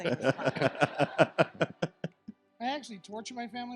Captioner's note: all laughing